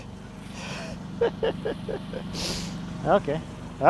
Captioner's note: laughing